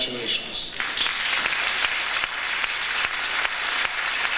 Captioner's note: audience applauds